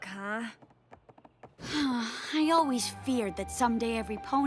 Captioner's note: sigh